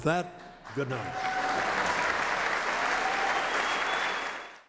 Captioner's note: applause